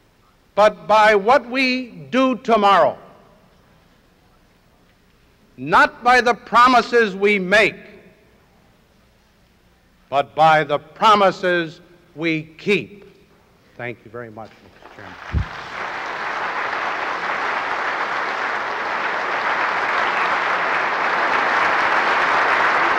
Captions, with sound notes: but by what we do tomorrow– not by the promises we make, but by the promises we keep. Thank you very much, Mr. Chairman. [audience applauding]